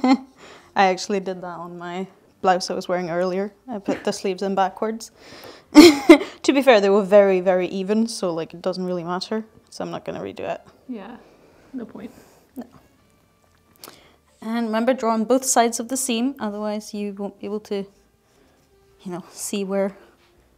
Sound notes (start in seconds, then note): 0.0 laughing; 5.8 laughs